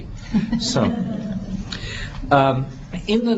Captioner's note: laughter